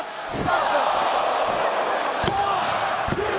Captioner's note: crowd cheering